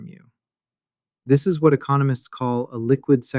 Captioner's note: thoughtful